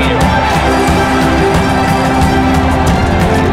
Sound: bell rings; many hoofbeats

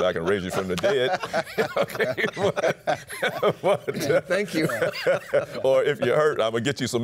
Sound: laughter

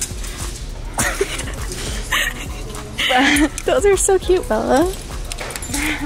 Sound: both laughing

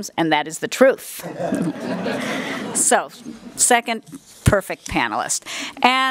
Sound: laugh

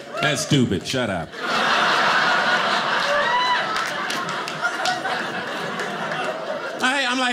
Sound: audience laughing

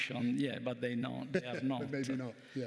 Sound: chuckles

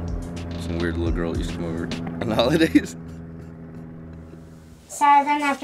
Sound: laughs

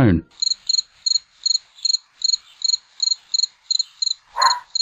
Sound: sound of crickets; a distant dog barks

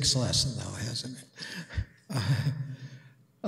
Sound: chuckles

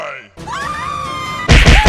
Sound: both scream

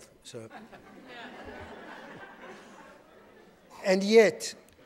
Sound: audience laughing

